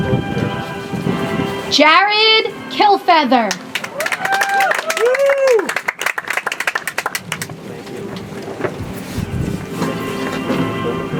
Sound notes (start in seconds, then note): 3.4 audience applauds; 8.8 soft music